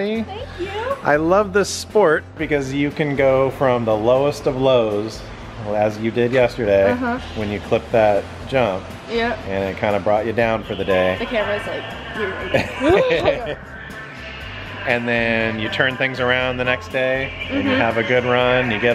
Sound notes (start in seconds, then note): 12.4 laughs